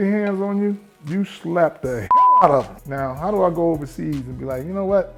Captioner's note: beep